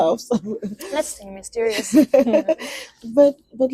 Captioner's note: laughs